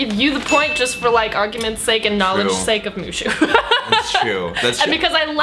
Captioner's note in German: lacht